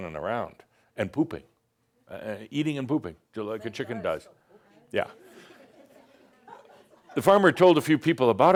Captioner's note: a few giggles